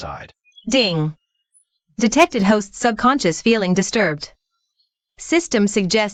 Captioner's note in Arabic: دينغ